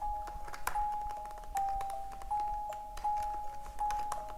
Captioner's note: keyboard clacks